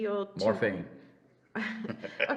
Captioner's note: laughs